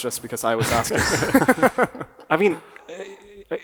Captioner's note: panelists chuckle